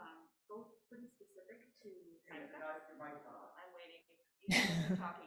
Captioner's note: group chattering